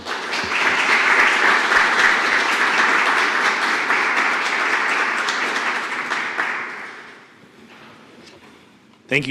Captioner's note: applause